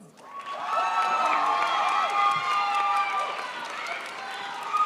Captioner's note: crowd applauds